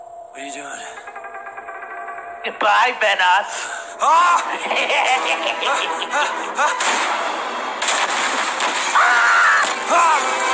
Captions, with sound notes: whata you doin Good by vanoss (yells) (evil laugh) Ahhhhhhhhhhhh